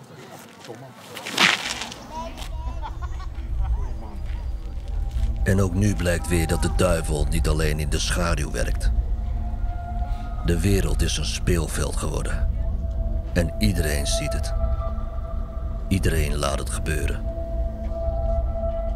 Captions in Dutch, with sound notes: [voice-over] And once more it is clear that the devil does not just operate in the shades the world has become his playground and everybody notices everybody just stands by